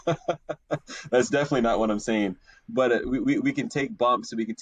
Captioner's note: laughs